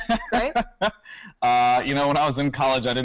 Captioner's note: laughs